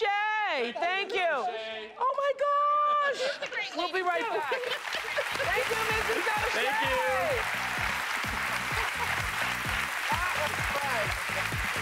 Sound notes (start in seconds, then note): 7.8 applause